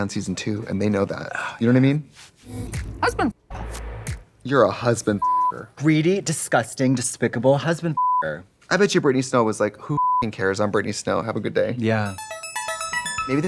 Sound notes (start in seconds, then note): 8.0 beep; 12.0 upbeat music